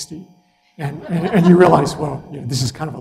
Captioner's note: laugh